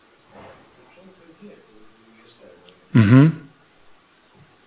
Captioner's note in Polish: szum